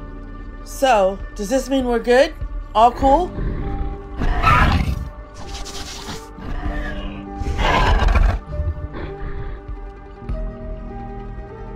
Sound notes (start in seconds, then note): 4.3 Ares purring